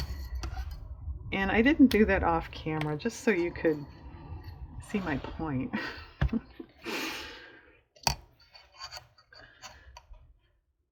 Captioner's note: laughs